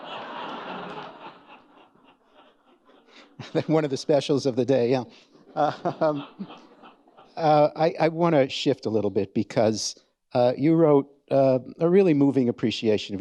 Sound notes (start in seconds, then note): 0.0 audience laughing; 5.2 chuckles